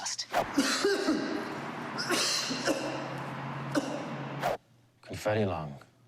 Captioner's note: coughing